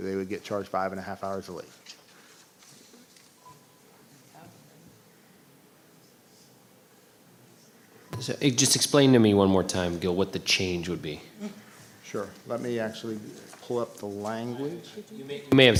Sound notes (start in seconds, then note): none